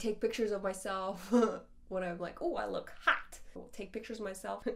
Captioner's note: laughs